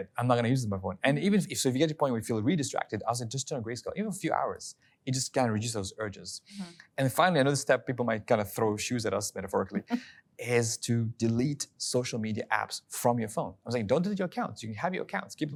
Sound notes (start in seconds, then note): 9.8 laughing